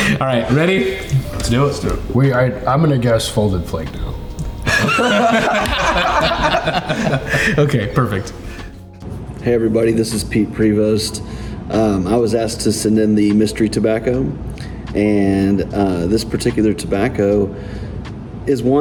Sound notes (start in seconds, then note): 4.6 everyone laughing